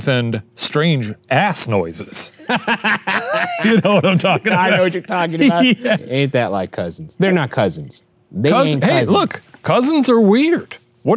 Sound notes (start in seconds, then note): 2.5 cackling; 6.5 giggles